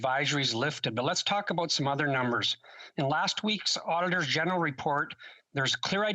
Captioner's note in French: voix de l'interprète